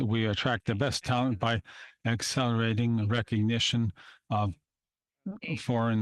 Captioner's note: speaking French